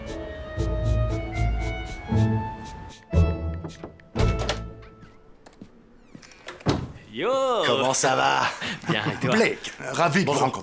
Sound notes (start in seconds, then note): 2.8 knock! Knock! Knock!